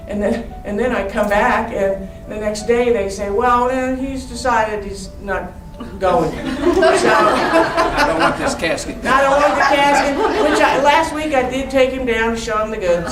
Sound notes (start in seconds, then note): 5.8 laughing